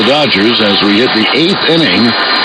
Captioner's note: swoosh